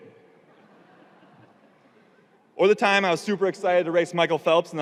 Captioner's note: audience laughing